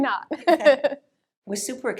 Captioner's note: both laugh